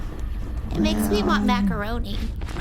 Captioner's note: laughs; quietly